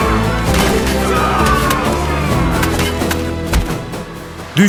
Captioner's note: gunshot